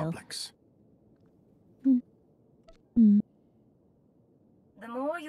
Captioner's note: mumbling